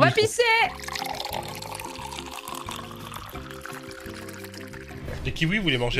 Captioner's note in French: bruit d'eau versée